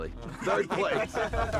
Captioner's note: laughter